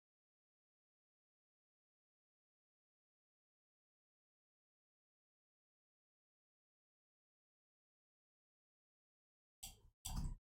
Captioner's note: blank Audio